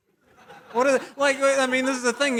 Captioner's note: laughter